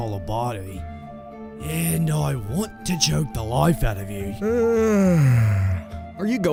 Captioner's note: yawn